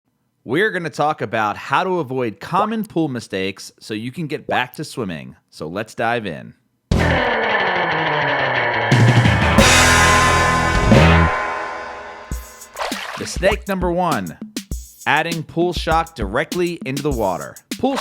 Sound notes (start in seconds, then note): 6.9 upbeat old time rock guitar music; 12.7 water splashes